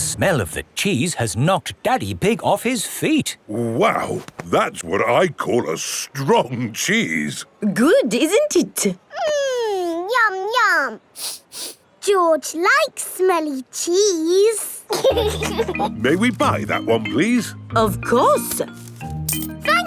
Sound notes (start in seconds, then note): 11.1 sniffs; 14.9 laughing